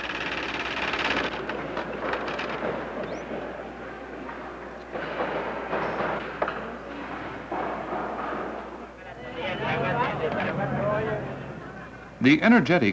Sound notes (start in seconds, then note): 0.7 sounds of machinery